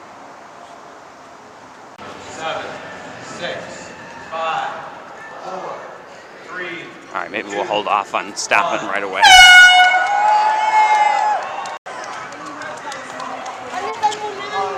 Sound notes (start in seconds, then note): 9.1 loud Airhorn - Crowed Cheering